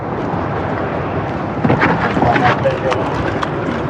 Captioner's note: shuffffliling